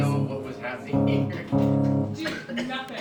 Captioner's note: laughing